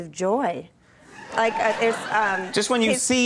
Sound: audience laughing

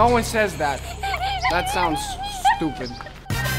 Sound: laughter/giggles

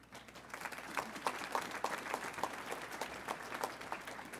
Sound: audience applauds

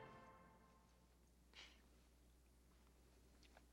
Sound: sniffling

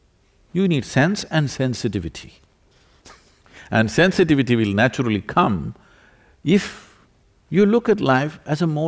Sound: laughs

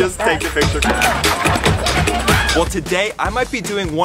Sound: reflector poles clank

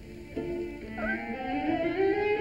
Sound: cat meows

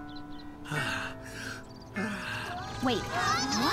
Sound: pants

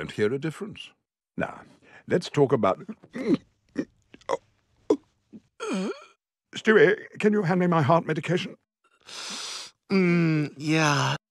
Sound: groaning

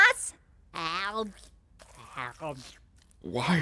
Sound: Bubble slurping

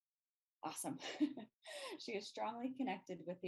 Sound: laughs

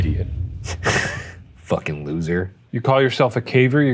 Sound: chuckling

